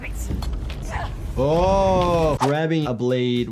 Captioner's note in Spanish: Senua gruñe